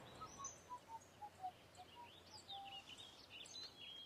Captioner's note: whistling